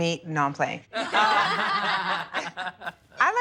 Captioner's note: laughing